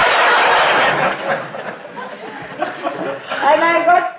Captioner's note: laughter